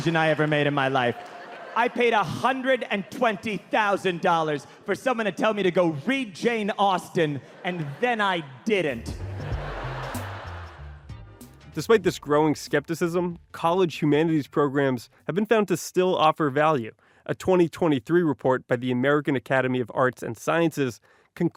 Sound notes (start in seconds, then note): 9.3 audience laughing; 9.3 upbeat music